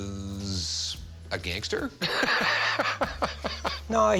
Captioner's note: laughs